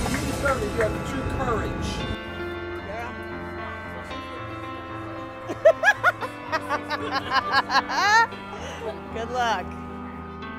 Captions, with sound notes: You deserve it, you have true courage. (laughs) Good luck.